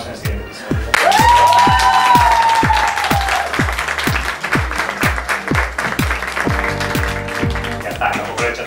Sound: cheering

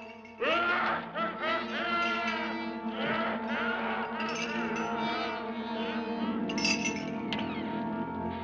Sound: chains rattling; ghastly laughing; door creaks

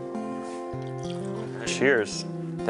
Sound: wine pouring

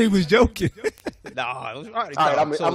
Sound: laughs

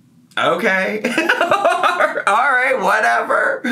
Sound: laughs

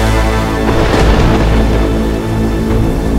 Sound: thunder rumbling

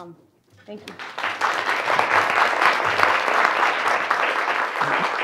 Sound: audience applauds

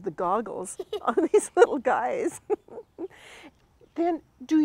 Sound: both chuckle

